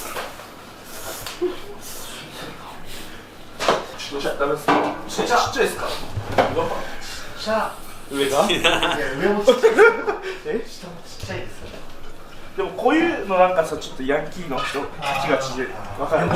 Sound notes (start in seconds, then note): 11.1 laughs